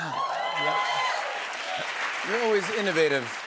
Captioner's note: cheers and applause